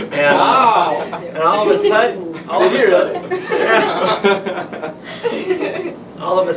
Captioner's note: laughter; laughter